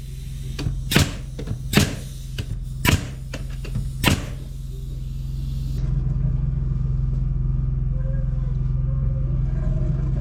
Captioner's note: knocking